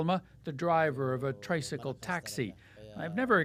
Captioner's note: speaking alternate language